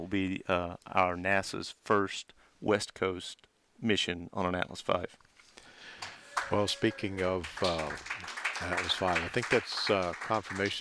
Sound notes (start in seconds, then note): 6.0 clapping and cheering in background